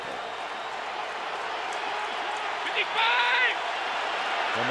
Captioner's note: cheering